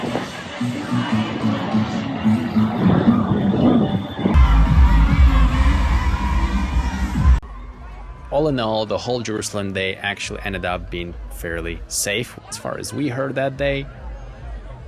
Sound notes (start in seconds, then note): 4.3 cheering